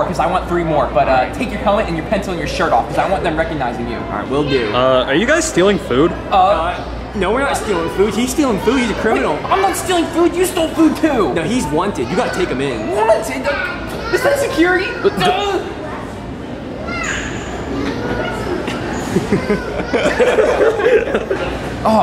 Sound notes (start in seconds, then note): 14.9 screams; 16.5 customers talking in background; 17.9 film team laughing